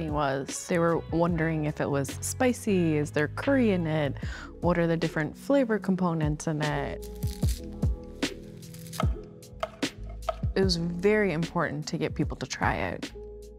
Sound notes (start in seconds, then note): 6.9 herbs crunching; 8.8 knife thudding